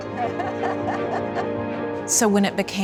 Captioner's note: laughter